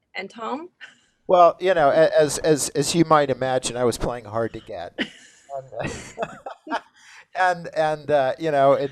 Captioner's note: laughs